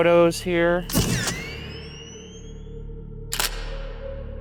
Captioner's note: camera shuttering